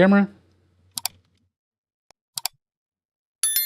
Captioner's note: mouse clicking